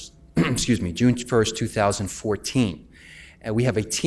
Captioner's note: clears throat